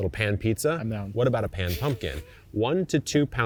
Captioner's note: chuckles